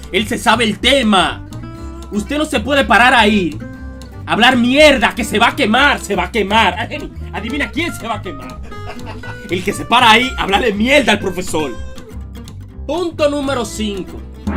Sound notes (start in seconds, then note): 8.4 ahahah